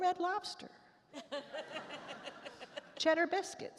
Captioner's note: attendees laugh